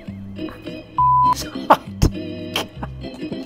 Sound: gentle music; beep; laughs

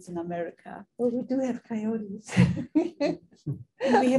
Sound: laughing

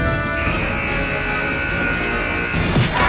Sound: buzzer ringing

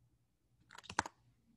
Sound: typing

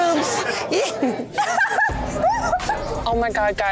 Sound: client giggling

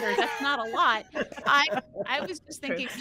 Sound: laughter

